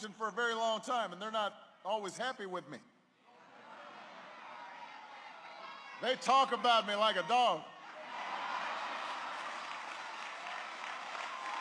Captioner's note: applause